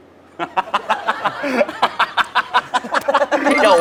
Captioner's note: laughing